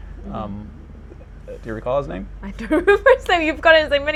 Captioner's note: laughing